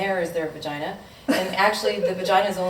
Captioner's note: laughing